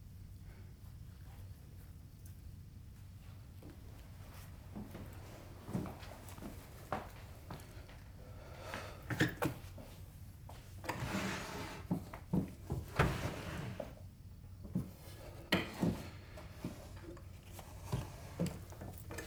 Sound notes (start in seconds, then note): 12.3 drawers rattling